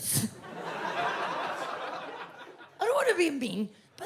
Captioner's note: audience laughs